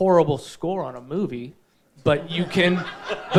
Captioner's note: audience laughing